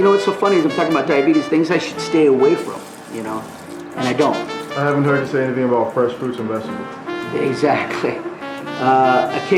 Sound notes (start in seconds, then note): 4.9 voiceover